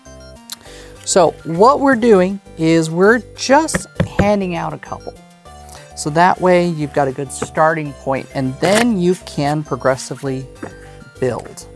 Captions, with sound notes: So, what we're doing is we're just handing out a couple. (thumping cards) So that way, you've got a good starting point, and then, you can progressively build. (cards riffling)